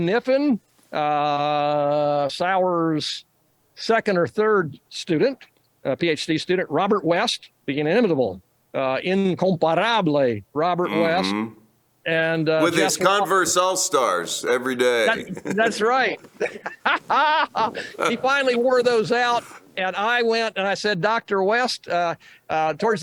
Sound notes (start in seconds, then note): 16.2 laughs